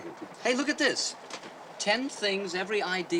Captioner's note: chuckles